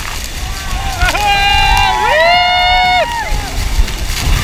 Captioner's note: everyone shouting